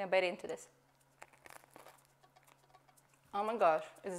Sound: crunching

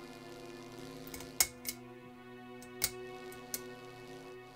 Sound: electricity buzzing; light fixture clicking; electricity buzzing

